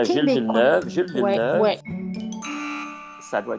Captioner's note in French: signal sonore de mauvaise réponse